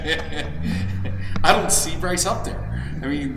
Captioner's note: laughing